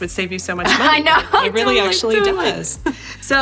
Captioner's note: laughing